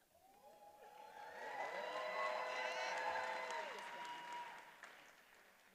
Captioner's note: attendees applauding and cheering